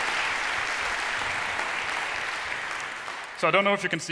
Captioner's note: applause